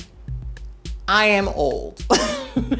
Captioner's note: laugh